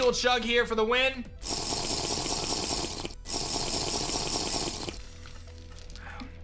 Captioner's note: Minecraft drinking sound